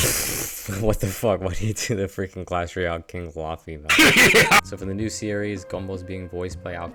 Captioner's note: hehehe